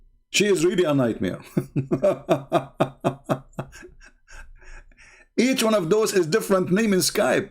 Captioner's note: Ketawa